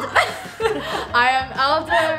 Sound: laughs

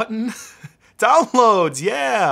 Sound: laughing

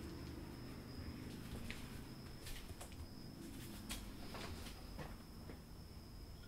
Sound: softly walking

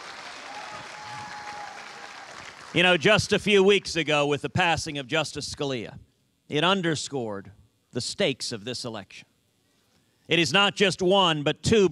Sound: cheers and applause

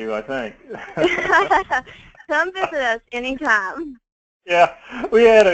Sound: laugh

